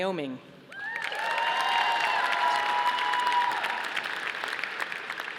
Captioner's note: audience applauding